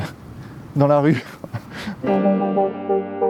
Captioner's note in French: rires